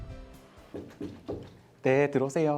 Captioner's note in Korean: 똑똑똑